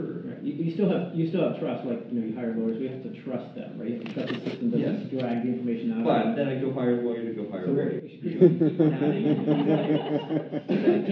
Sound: laughter

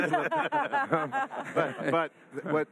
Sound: all laugh

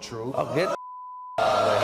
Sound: beep

